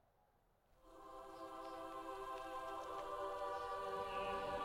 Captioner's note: wind howling